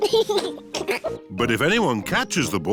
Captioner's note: chuckles